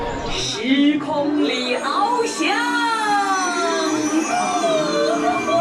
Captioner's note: speaking Chinese